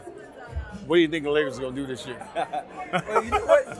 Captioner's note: laughter